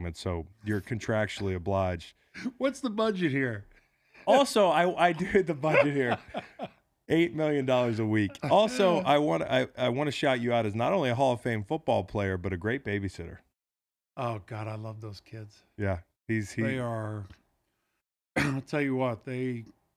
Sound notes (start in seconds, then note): 5.0 Howie laughs; 5.1 laughs